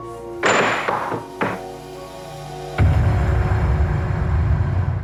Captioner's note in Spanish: Ruido al tirar el vaso